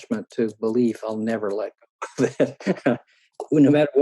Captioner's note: laughing